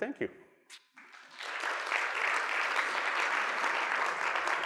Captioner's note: audience applauds